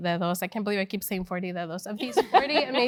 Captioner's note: laugh